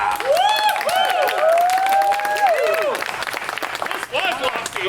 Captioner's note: actors applauding